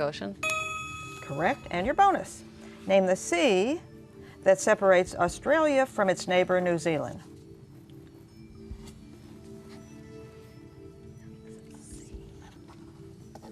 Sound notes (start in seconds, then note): 8.1 whispering